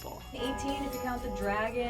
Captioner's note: bell tolling